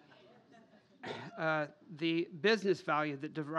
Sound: laughter

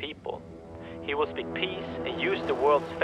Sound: futuristic sounds

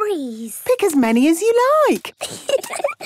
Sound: giggling

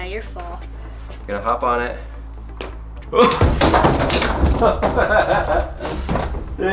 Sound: laughs

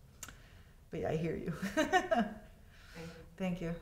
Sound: laughs

